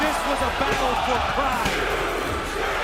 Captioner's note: cheers and applause